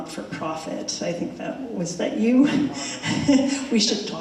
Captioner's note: chuckles